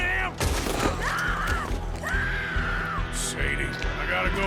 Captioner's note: Sadie is heard screaming